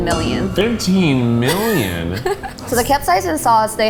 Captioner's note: laughs